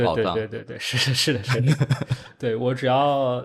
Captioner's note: laughter